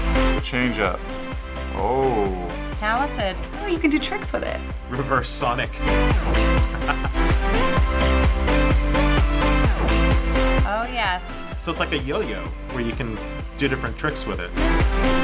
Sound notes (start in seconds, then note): 6.2 chuckles